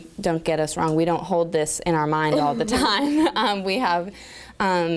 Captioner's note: laughter